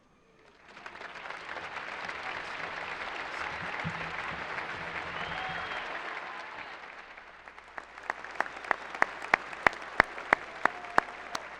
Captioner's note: applause